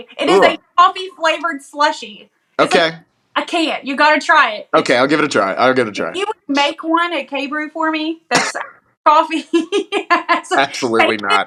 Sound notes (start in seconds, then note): 8.3 laugh